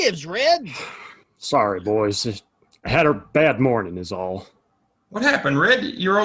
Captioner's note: sighing